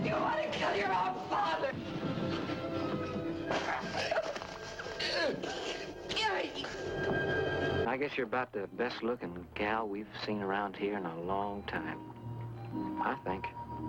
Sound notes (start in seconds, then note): 4.0 grunting